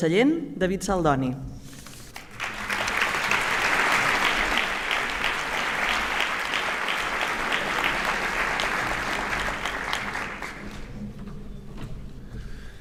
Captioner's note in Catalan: aplaudiments